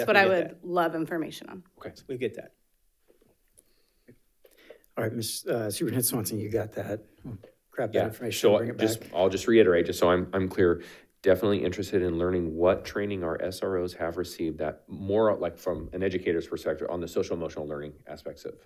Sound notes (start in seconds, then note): none